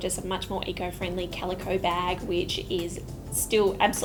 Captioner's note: none